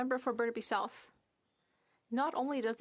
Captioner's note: speaking french